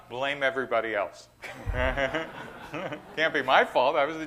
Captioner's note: laughter